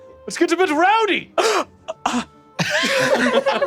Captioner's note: gasps oddly